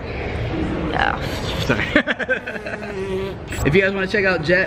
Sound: laughing

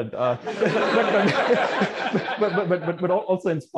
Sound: laughter

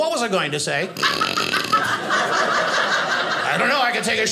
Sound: audience laughing

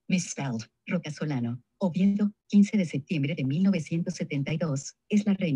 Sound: speaking in foreign language

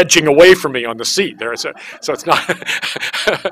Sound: laughs

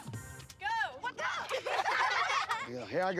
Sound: girls laugh

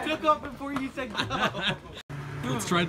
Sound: laughing

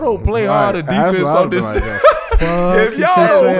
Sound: laughing

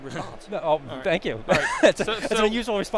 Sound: laughs

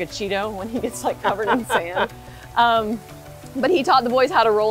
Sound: laughs

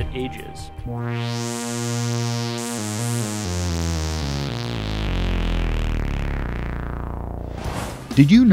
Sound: sound Effects

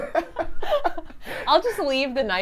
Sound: laugh

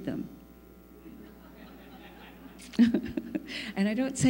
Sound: laughter

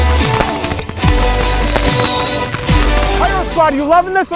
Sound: festive music; fireworks whistling

